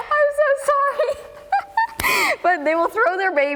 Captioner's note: laughs